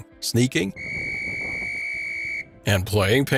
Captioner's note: whistle sounding